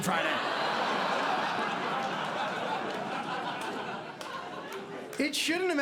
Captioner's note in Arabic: ضحك